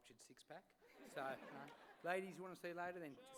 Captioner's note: laughter